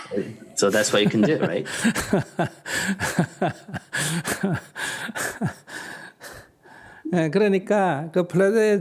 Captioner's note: laughter; questioner laughter